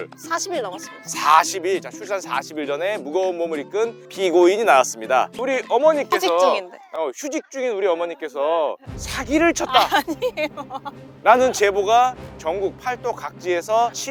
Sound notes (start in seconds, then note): 8.9 grand music; 9.6 laughing